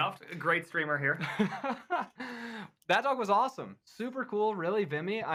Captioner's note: laughs